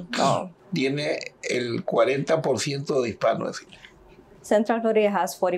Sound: speaking in Spanish

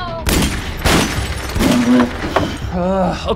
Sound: more gunshots

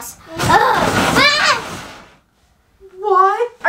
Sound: screams

